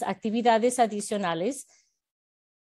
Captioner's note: Spanish